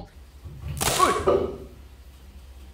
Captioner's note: chair snaps